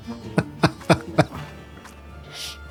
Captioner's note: laughs